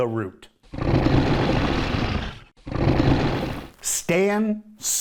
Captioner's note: dinosaur growls